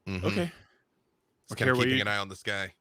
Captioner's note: murmurs